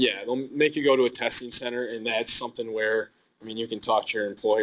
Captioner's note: none